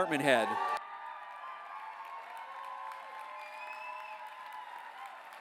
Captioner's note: applause